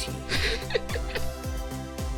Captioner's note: laughs